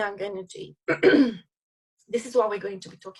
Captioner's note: instructor clearing throat